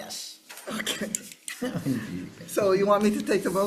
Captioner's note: chuckling